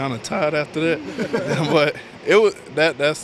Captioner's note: laugh